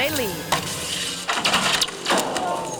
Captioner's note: metal scraping; metal rattling; metal clanking